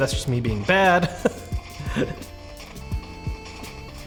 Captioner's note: laughs